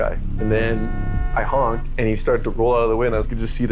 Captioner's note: none